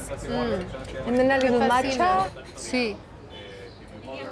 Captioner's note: speaking Spanish